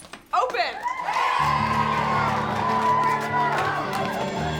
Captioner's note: cheering